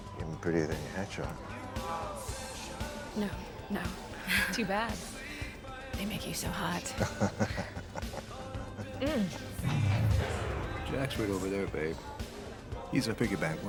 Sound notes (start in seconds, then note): 6.9 chuckles